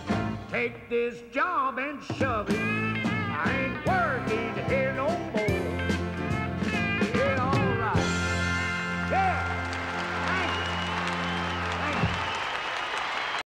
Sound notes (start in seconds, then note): 9.0 crowd cheers and applauds